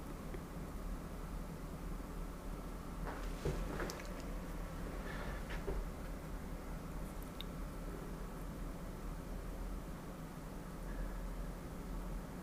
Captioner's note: sniffing